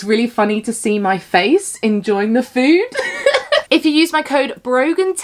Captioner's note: laughs